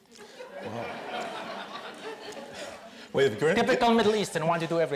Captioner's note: audience laughs